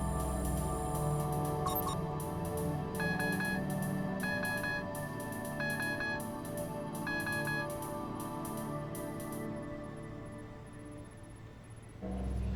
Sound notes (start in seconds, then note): 6.4 electronic beeping